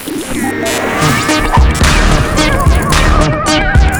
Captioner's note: static buzzing; upbeat electronic music